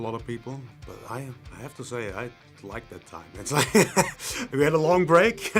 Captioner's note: laughs